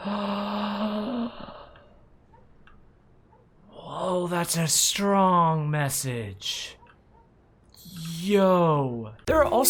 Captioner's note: gasps